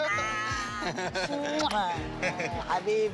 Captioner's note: laughter; smooches